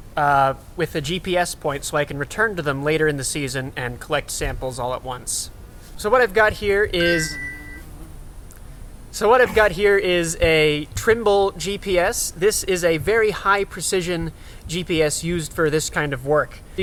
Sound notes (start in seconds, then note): 6.0 GPS pings